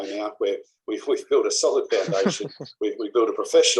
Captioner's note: laugh